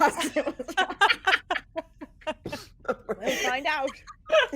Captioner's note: everyone laughs